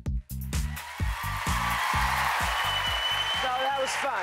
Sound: cheers and applause

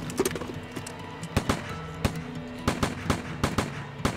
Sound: shot fires

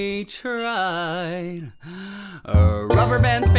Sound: singer takes deep breath

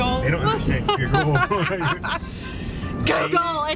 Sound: laughing

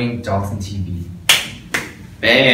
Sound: clap

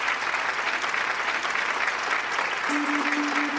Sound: applause

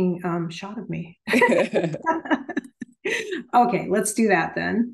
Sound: laughing

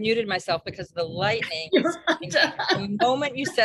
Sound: laughs

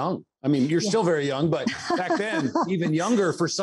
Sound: laughs

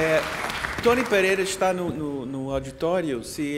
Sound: speaking portuguese

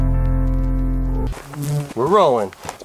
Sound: insect buzzing

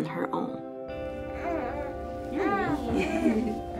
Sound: baby coos; laughs

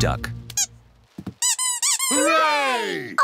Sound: duck squeaks

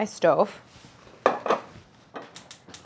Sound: pan thuds; fire crackling

